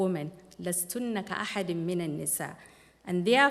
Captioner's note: non-english speech